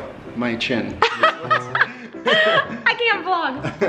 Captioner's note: laughing